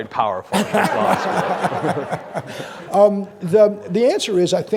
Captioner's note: audience laughing